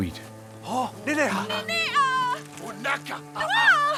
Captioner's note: foreign spoken audio